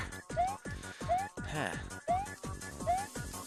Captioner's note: breathing